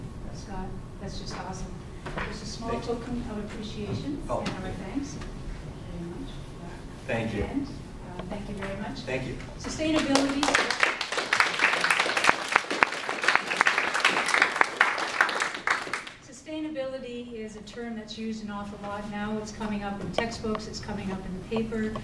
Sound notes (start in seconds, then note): 9.9 audience applause